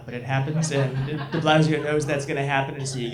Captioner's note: audience laughs